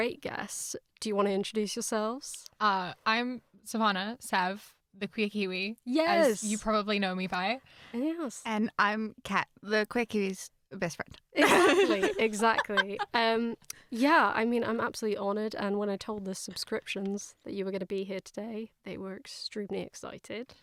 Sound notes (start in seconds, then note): 11.4 laughs